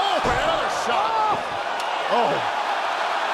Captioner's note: crowd cheering